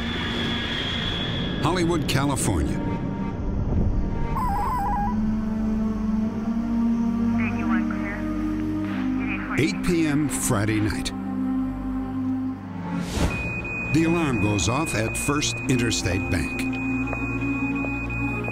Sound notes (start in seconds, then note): 5.2 police radio chatter; 13.2 beeping